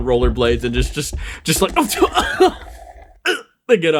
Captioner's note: Pained Sevan Noises